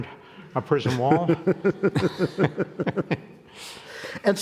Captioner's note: both laughing